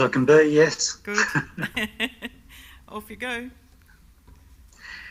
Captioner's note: laughs